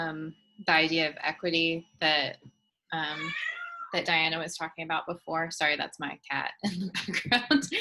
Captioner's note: cat meowing